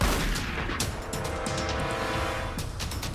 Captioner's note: gunshot